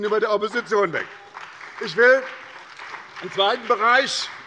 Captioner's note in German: Beifall bei der SPD